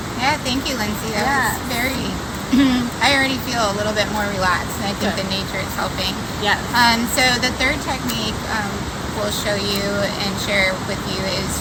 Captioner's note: clears throat